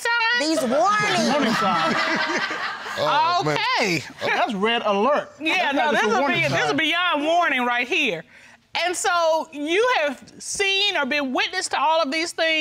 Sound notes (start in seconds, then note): 0.5 laughs